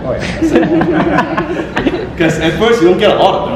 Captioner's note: audience laughter